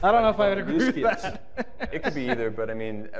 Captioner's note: laughing